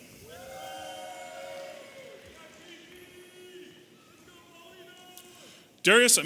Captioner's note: audience applauding and cheering